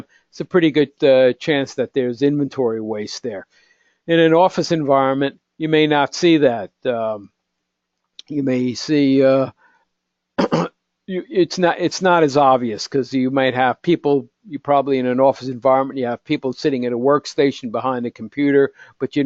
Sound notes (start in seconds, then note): 10.4 cough